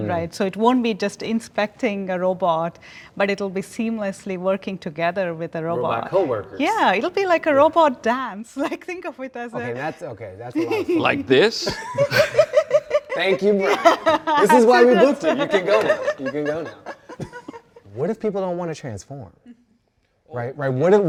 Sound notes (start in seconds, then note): 8.0 giggles; 11.6 both laughing